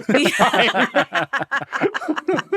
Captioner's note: all laughing